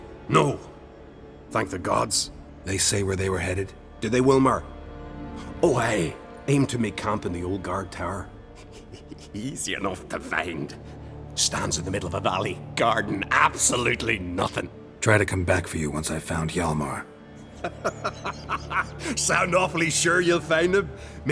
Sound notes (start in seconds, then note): 8.6 snicker; 17.4 laughs